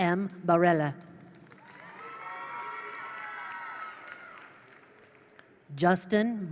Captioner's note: attendees applaud; attendees cheer